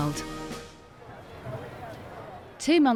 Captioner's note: people chatting